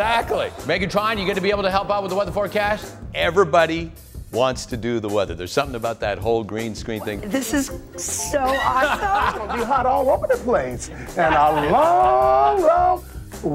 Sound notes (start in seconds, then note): 8.4 laughing